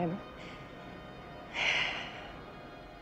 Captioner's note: sighs